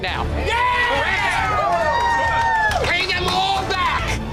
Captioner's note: shouting